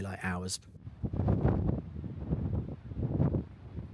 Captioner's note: sound of wind